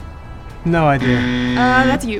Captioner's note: buzzer sounds